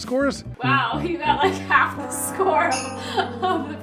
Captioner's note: laughs